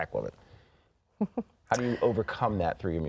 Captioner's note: chuckling